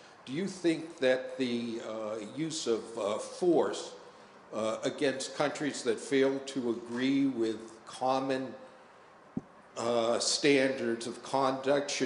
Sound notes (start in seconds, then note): none